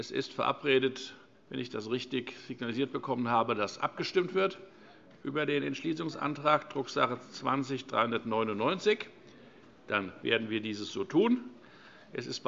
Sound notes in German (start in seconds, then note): none